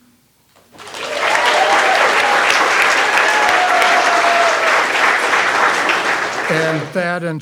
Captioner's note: all applauding